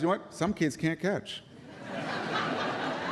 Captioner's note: laughter